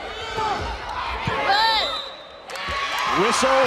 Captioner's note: players yelling; whistle blows; crowd and players cheering